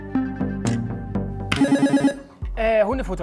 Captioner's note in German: Angespannte Musik; Buzzer